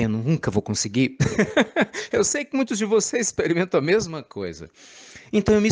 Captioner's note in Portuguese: risadas